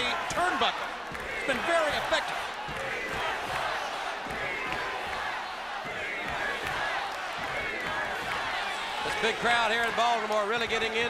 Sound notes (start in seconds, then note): 4.6 crowd cheering